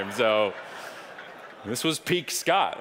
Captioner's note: audience laughing